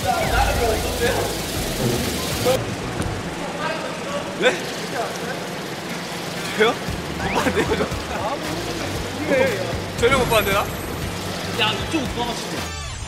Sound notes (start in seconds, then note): 2.9 plodding